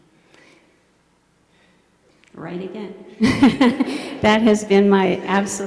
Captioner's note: laughs